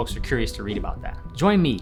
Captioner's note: whooshing